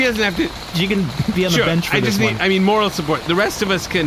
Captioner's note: laughing